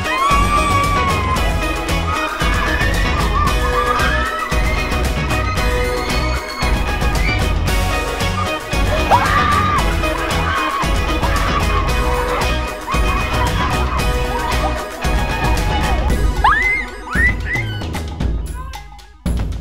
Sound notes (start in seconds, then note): 2.2 screams; 8.3 screams; 16.4 screams